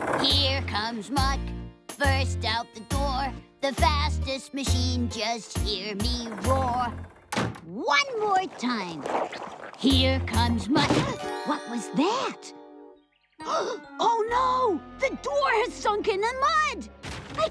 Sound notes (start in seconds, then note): 10.8 thudding; 13.4 gasp!